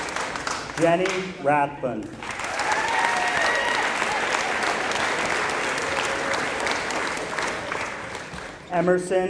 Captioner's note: applause